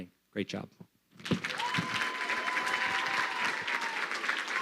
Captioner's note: crowd clapping